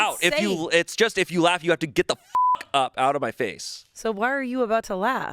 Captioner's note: beep